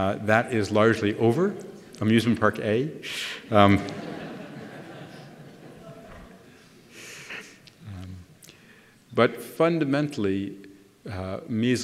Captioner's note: laughter